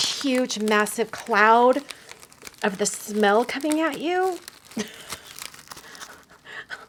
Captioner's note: laughs